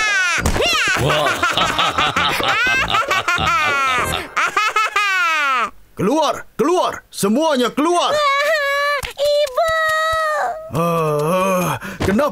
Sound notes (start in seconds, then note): 0.0 laughing; 2.5 groans; 8.7 hysterically crying